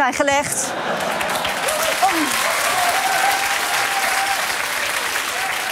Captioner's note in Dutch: gelach, applaus en gejuich